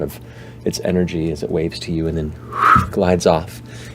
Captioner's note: whooshes